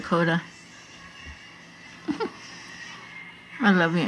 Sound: chuckles

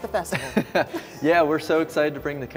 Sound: laughing

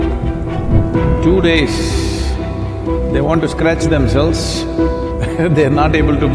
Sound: laughs

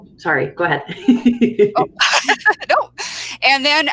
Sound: laughs

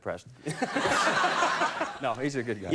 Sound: audience laughing

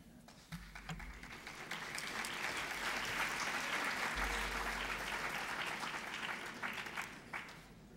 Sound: applause

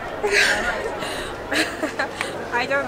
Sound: laughs

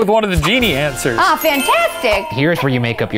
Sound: celebratory horn sting; ding

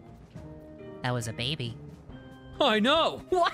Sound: SpongeBob Voice

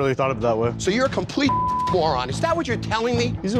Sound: beep

